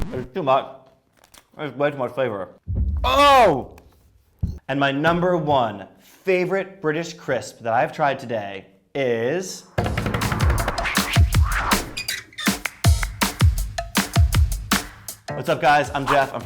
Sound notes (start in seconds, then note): 9.7 upbeat music; 9.8 drumming on the table